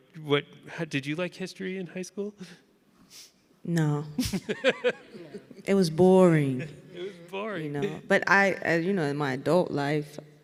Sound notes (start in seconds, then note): 4.2 laughing